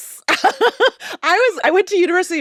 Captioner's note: laughs